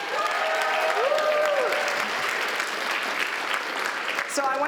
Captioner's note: applause